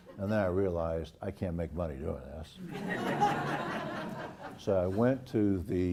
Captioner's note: laugh